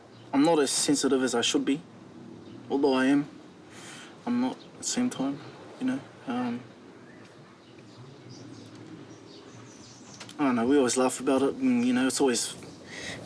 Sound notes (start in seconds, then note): 8.1 birds tweet